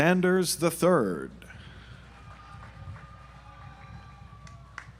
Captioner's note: audience applauds